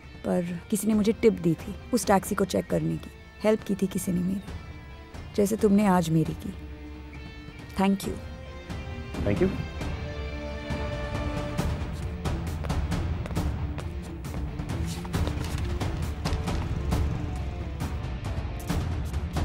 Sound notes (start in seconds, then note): 11.7 footsteps; 15.6 bike engine starts